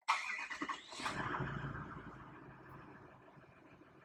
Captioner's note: motor starting